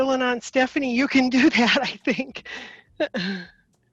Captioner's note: chuckling